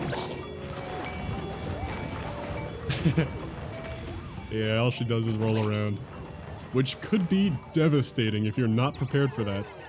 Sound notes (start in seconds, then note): 2.9 laughs